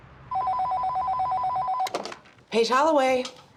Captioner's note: phone ringing